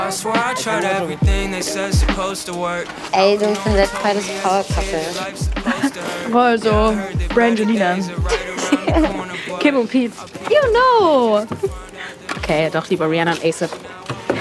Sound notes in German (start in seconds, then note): 1.1 Dynamische Musik; 5.4 Kichern; 7.3 Lachen